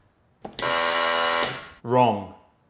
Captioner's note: machine blaring